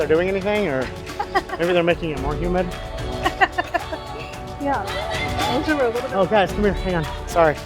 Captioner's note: laughter